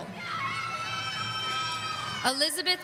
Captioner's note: audience cheering